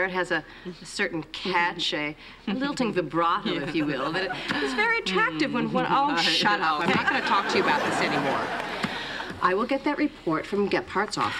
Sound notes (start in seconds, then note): 2.8 speaking foreign language